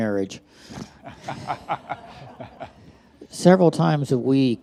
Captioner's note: all laugh